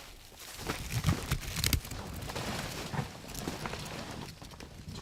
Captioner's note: blind rustling